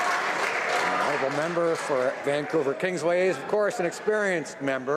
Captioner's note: some Applause